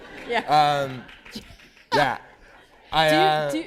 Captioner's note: laughter